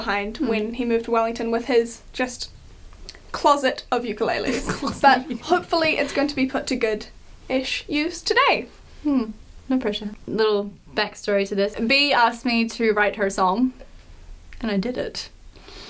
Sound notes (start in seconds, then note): 4.4 laughs